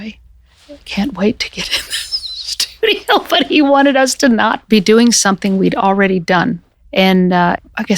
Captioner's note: laughs